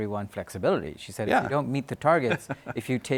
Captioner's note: laughs